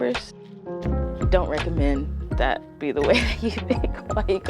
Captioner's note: laughs